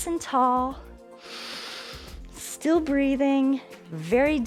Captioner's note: inhales